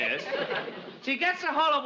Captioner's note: audience laughs